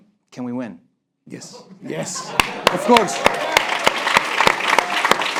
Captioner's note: applause break